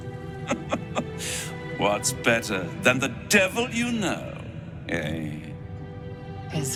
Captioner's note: laughing